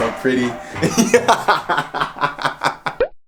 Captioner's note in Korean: 웃음